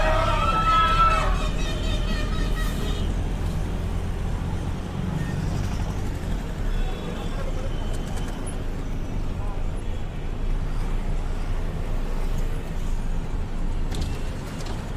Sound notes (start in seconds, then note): 3.2 traffic noise